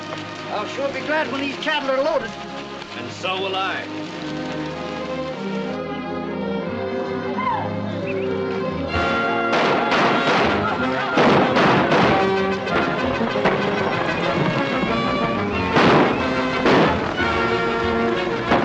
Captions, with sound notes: I'll sure be glad when these cattle are loaded. And so will I. [ FIRING ] [ FRANTIC MUSIC ] [ FIRING ]